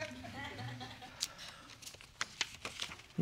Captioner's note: audience laughs